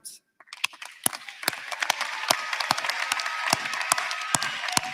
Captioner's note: applause